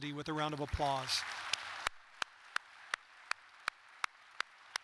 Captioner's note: audience applauding